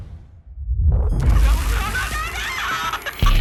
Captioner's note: scream breaks up into static; woman screaming